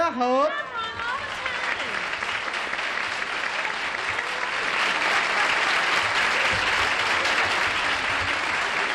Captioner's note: applause